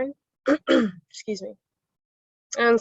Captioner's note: clears throat